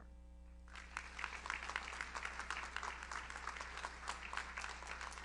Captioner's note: audience applauds